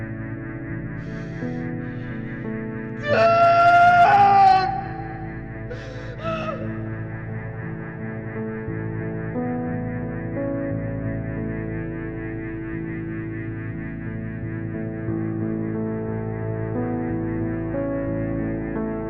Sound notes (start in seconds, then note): 3.6 shouting; 15.5 somber music continues